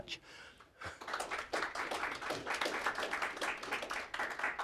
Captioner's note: applause